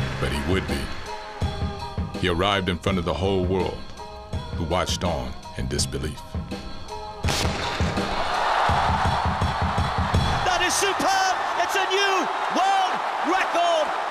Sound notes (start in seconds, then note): 7.2 gunshot; 7.4 cheering crowd